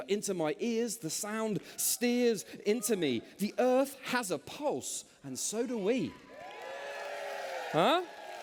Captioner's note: cheers